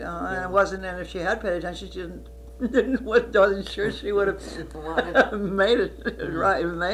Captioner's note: laughs